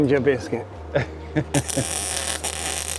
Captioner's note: laugh